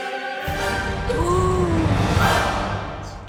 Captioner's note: gasping; dramatic music ends